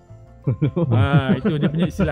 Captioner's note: laugh